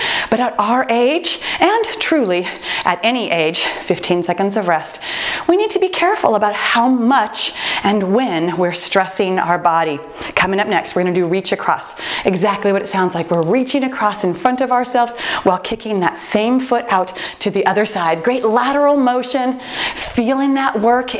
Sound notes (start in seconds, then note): 2.2 timer beeping; 17.2 timer beeping